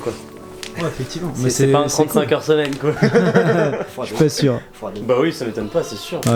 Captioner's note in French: rire